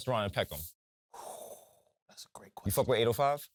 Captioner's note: exhales